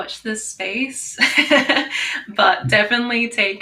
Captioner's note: laughs